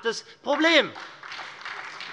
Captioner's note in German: Beifall